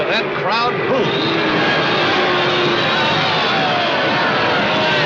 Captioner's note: crowd booing loudly